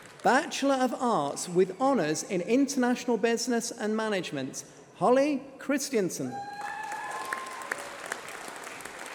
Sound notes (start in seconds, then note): 6.4 applause